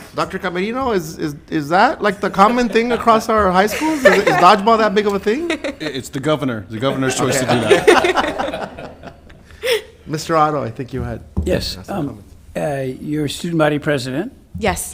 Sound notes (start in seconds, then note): 6.8 laughs; 6.8 laughing; 6.8 laughs